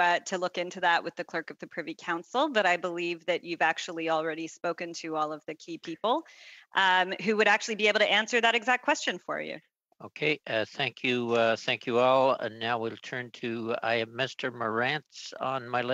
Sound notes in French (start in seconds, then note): 3.3 voix de l'interprète